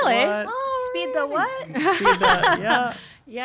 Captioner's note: laughing